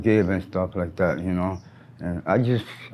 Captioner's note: birds chirp